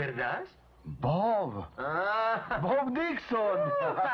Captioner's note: laughs